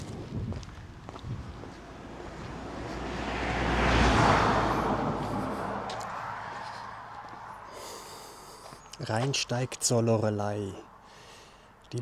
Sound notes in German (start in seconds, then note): 0.9 seufzt